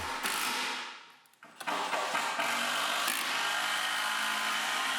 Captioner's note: machinery drills